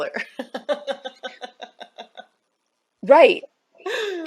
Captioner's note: laughs